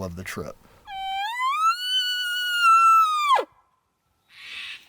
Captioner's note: hunter Bull Call